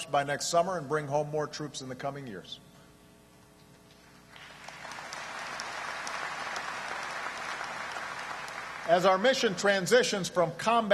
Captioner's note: applause